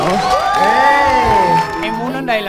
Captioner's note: cheering